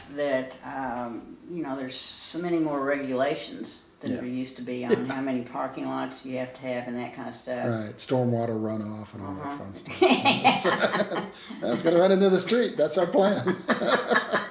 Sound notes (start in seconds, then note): 9.9 laughing